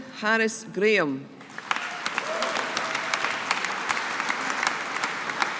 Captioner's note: audience applauding